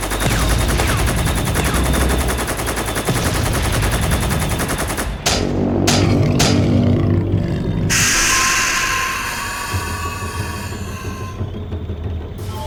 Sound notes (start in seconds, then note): 0.0 tank gun blasting; 0.2 explosions booming; 5.9 steps thudding; 7.9 beast shrieks; 9.7 intense music